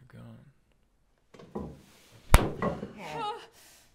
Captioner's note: slap smacking; Mabel wails